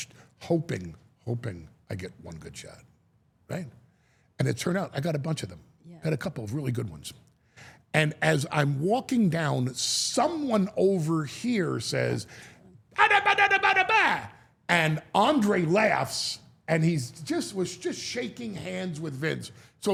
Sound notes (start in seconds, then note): 12.9 Paul exclaims